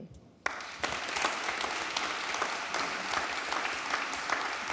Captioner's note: audience applauding